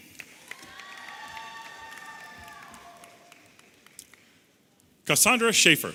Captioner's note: audience applauding and cheering